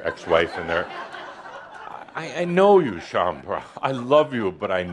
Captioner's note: laughter